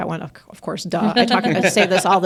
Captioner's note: group laughs